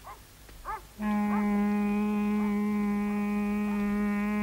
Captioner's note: horn blares